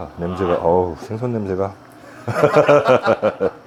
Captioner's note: A laugh of love